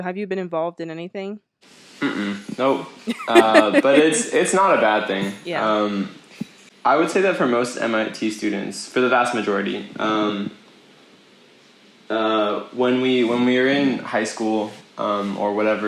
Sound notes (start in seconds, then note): 3.1 laughs